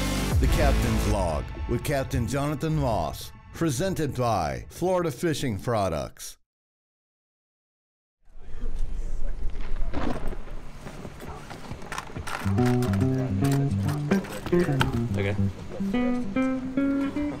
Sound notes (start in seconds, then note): 9.9 thunder cracking; 12.4 gentle music